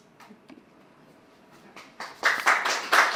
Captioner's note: applause